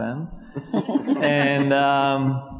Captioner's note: panelists laughing